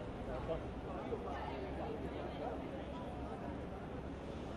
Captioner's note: people chattering